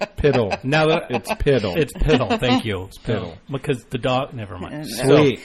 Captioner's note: laughs